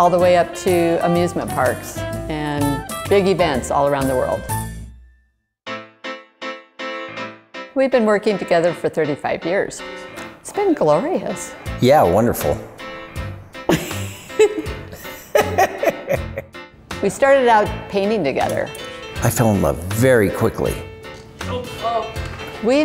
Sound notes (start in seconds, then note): 13.7 laughing